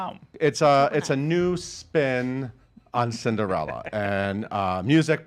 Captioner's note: laughs